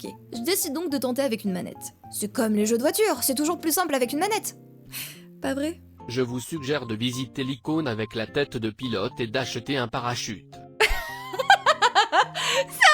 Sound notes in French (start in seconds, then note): 6.0 voix robotique; 10.8 rire